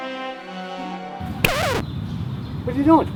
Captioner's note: record scratch